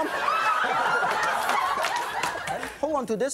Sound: audience laughs

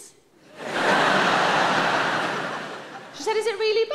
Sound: audience laughs

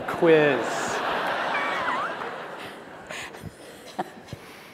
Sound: laughter

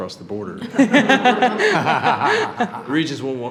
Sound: all laugh

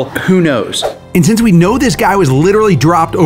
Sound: screen swooshes

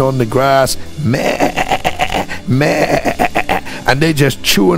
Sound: imitating sheep bleating

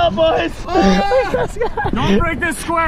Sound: laughs

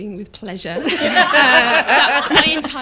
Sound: laughter

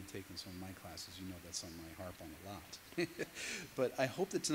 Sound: laughs

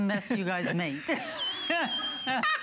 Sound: laughter

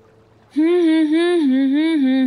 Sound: humming

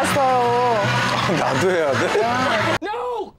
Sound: laughing

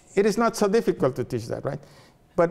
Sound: none

